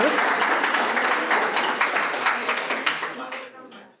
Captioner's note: applause